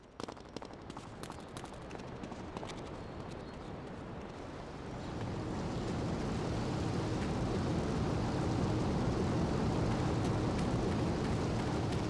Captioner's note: plane engine roaring